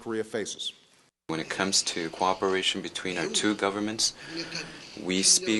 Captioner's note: through translator